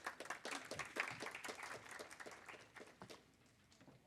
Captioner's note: audience applaud